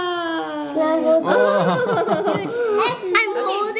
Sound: laugh

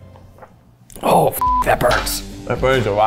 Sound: beep

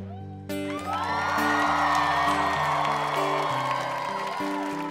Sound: crowd cheering

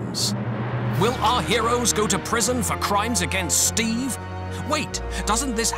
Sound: dramatic Voiceover

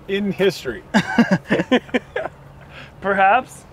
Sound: laughter

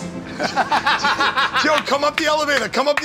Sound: laughter

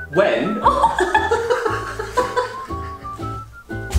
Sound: both laughs

